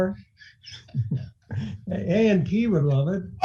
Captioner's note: laughing